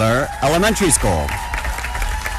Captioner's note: applause